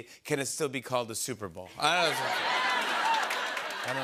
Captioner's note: laughter